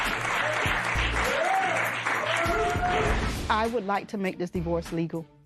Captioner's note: cheering